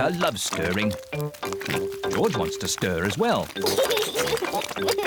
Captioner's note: oinks; giggles